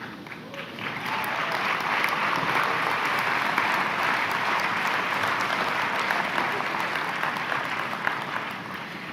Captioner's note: applause